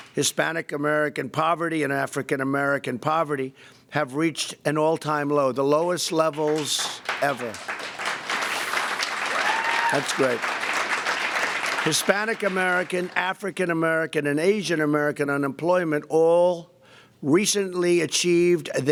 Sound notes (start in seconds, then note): 8.1 applause